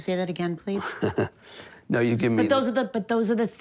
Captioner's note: laughs